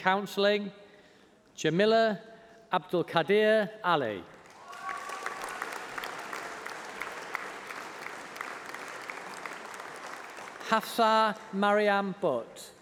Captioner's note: applause